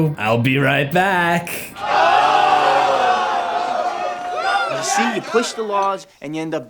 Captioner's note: crowd